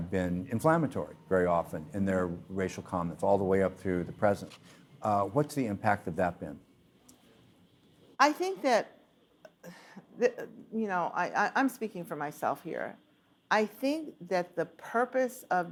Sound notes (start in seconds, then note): 9.6 sigh